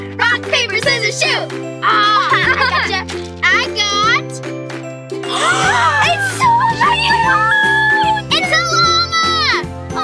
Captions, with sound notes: - Rock, paper, scissors, shoot! - Aw! - (laughs) I goctha! - I got... (gasping) - It's so cute! - It's a lama!